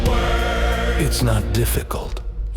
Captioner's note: crowd booing